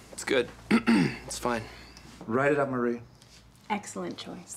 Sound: clearing throat

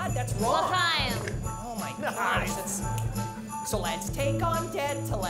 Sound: snapping fingers

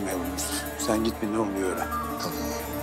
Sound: radio sounds

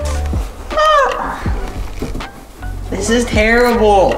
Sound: grunting

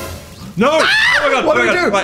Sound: Dan screams

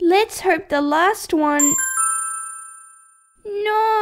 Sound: ding!

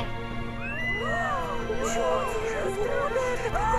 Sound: frightened cries, children’s screams

